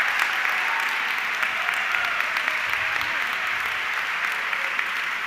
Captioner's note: audience clapping continues